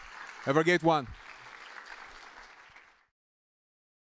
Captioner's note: applause